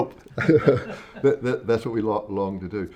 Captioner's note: everybody laughs